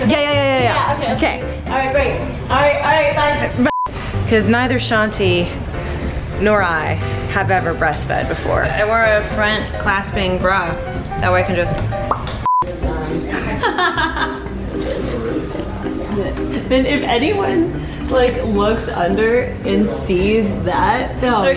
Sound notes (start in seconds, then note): 13.2 laughing